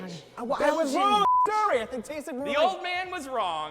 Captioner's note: beep